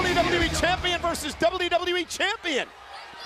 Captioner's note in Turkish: Alkış